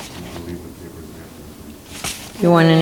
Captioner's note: man speaks off mic